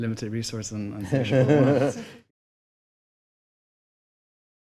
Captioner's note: laughter